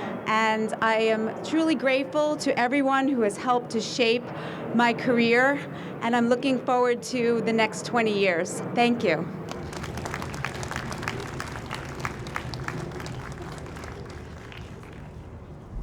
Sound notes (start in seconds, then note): 9.4 audience applauds